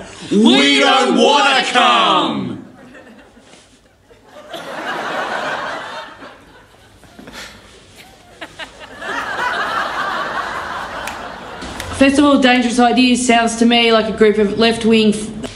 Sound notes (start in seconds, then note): 4.0 laughter